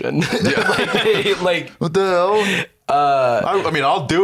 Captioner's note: laughs